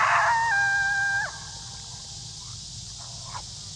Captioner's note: howling